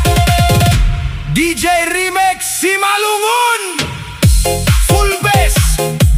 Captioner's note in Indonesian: berteriak